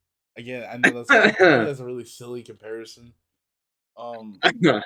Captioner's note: laughs